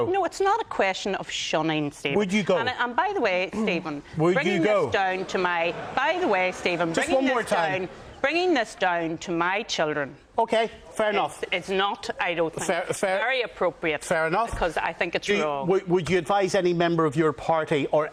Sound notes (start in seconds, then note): 5.3 audience Laughter